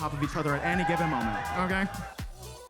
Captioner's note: attendees cheering; upbeat music